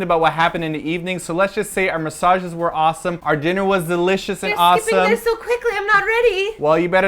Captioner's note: panics